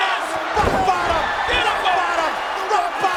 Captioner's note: body thudding; presenter speaking faintly off mic